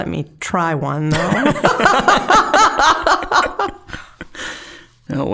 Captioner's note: both laughing